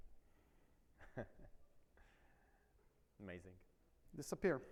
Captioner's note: chuckles